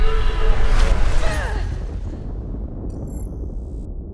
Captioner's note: grunting